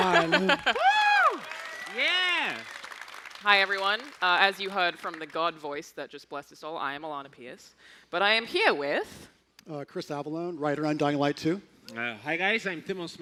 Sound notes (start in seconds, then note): 4.8 applause